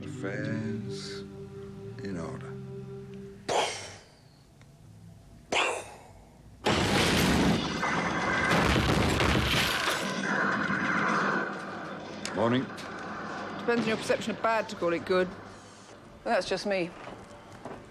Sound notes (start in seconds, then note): 3.4 imitates blasting gun; 6.6 guns blasting